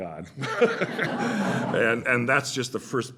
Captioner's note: laughter